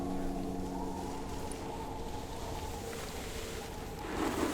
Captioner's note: skis scraping